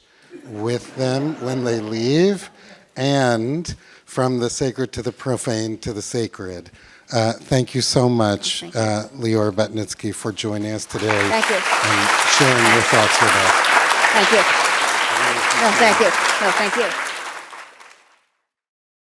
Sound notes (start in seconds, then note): 10.8 applause; 13.2 laughter